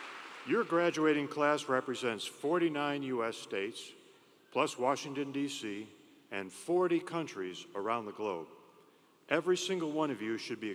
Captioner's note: applause